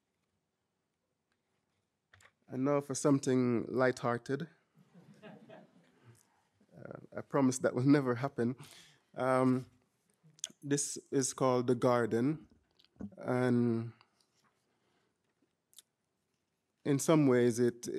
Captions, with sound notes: And now for something lighthearted. (audience chuckling) I promise that will never happen. This is called "The Garden," and in some ways